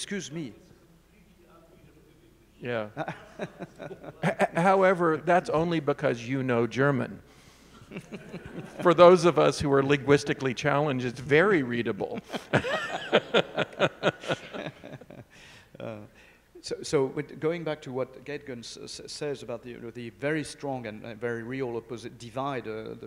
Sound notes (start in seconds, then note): 0.0 speaking faintly; 2.8 speaking faintly; 2.9 chuckling; 7.8 audience chuckling; 12.0 all laughing